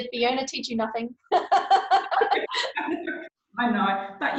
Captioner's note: laughing